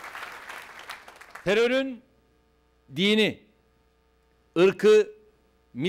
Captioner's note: non-english speech